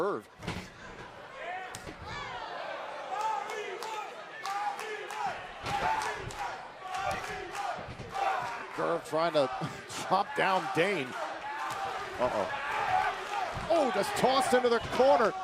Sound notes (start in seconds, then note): 4.8 fans chanting